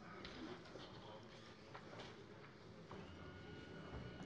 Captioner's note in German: none